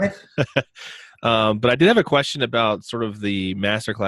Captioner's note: chuckles